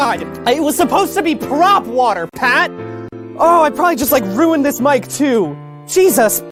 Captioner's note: shouting